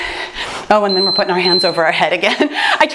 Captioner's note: timer beeps